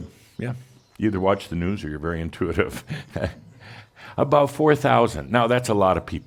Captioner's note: Adamus chuckles